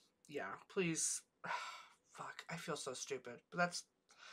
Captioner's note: sighs